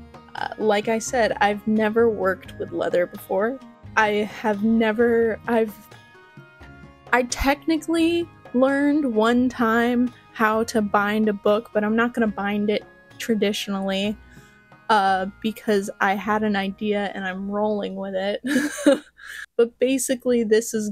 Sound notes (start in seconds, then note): 18.4 laughter